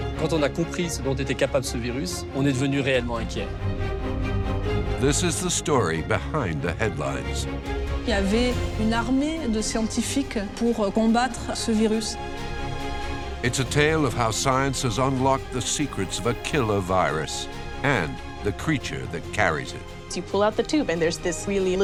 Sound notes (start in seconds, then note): 0.3 man speaks in foreign language; 8.2 woman speaks in foreign language